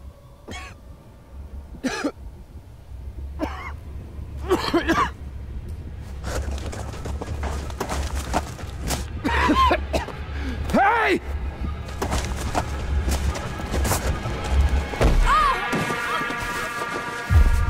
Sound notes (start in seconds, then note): 9.2 coughing and gagging; 11.3 tense music playing; 15.1 yells